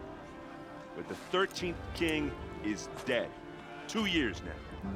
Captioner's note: none